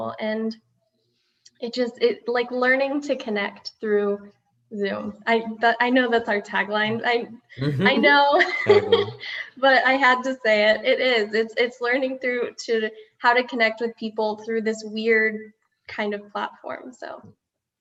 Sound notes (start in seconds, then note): 7.6 laughing